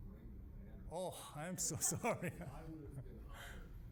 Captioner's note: laughing